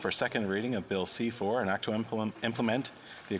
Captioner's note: speaking french